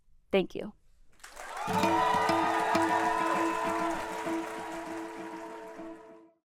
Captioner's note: applause and upbeat music